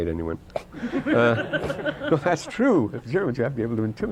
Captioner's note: laughter